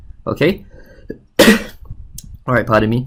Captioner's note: sneezes